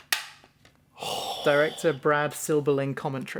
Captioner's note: satisfied sound